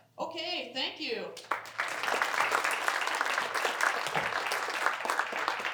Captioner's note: applause